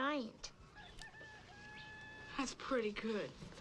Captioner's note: rooster crowing